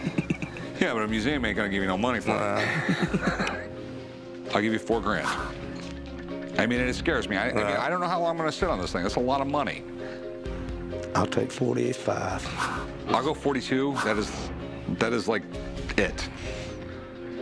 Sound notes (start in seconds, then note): 2.2 laughter